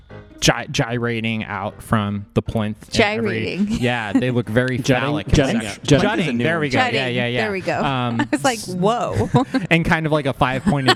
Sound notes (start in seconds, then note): 3.5 laughs